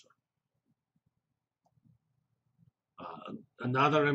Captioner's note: pause